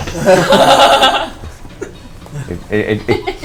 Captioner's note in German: Gelächter